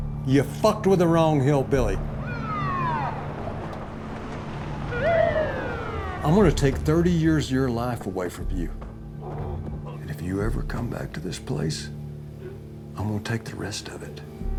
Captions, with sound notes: Ya fucked with the wrong hillbilly. [SIRENS BLARING] I'm gonna take 30 years of your life away from you. If you ever come back to this place, I'm gonna take the rest of it.